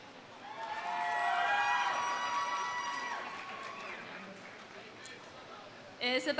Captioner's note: audience cheering; audience applauding